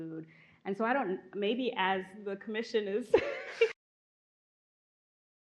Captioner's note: laughs